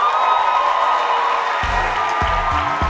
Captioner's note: crowd cheering; crowd clapping; upbeat instrumental music